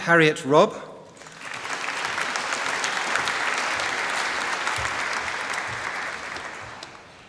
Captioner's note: applause